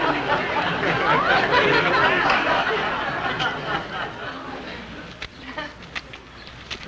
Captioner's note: audience laughing